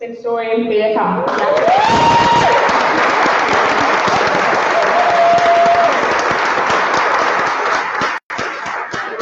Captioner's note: applause